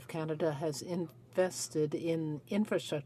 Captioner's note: speaking French